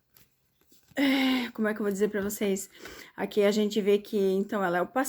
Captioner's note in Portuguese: suspirando